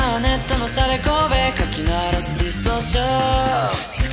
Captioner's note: distortion